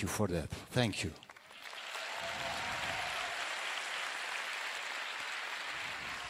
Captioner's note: cheering/Applause